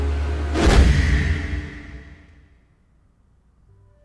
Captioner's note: suspenseful music; whooshing